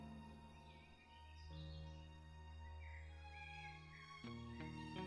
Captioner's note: birds chirping